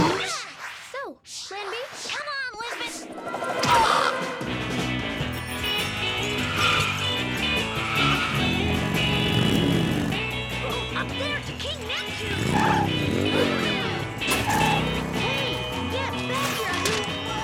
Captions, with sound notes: - So, plan B? - Come on, Lizbeth! (engine revs) - Up there to King Neptune! - Hey, get back here, you!